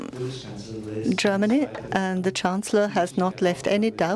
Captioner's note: voiceover